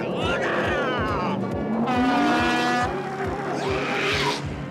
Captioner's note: horn blasts